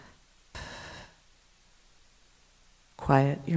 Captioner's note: exhaling